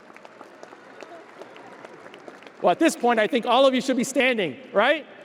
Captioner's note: audience applauding